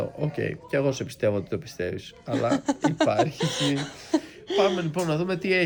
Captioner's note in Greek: γέλια